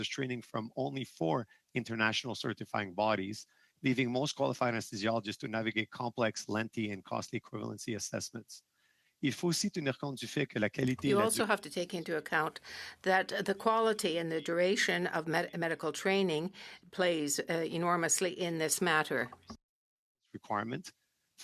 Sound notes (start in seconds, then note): 15.9 speaking French